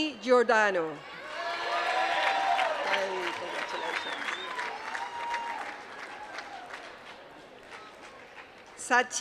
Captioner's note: applause